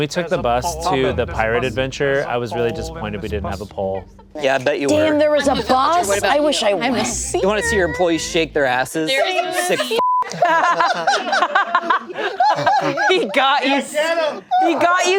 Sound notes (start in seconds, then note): 10.0 beep; 10.2 group laughing